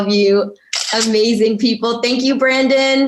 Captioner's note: camera shutter clicking